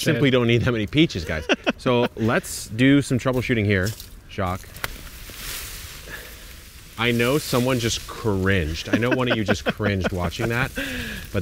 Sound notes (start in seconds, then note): 5.2 tree rustling; 8.6 laughing